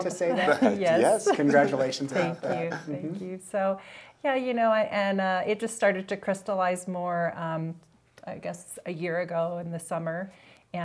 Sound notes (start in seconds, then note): 0.4 laughing